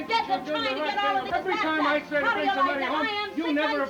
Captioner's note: both chattering